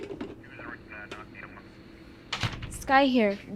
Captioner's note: chattering on radio